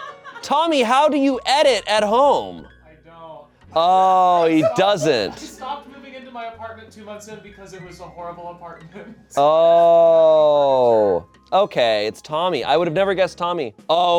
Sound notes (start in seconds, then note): 8.8 laughs